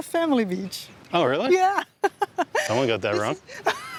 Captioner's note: laughs